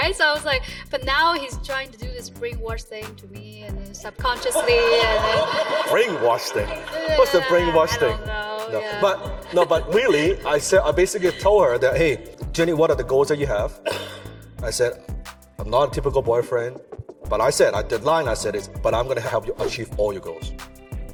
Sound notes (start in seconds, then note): 4.8 audience laughs